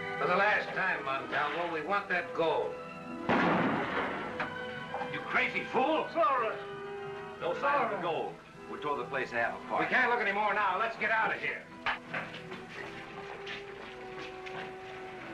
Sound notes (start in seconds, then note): 3.2 gunshot